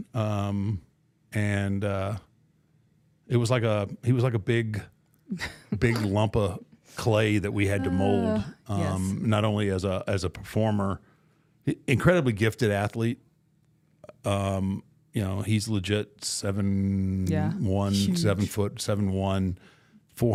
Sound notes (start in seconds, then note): 7.5 laughing